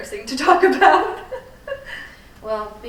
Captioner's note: laughing